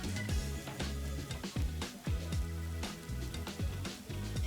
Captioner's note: sizzle